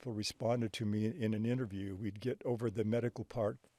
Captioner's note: none